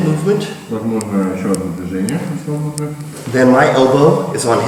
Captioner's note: speaking in a foreign language